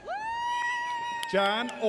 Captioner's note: audience cheers